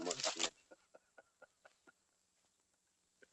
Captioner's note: laughs